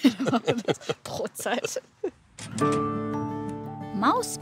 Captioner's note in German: lacht